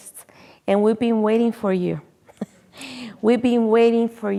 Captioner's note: chuckles